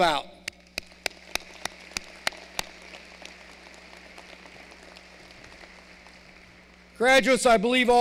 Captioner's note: applause